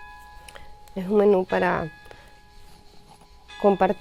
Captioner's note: ringing bells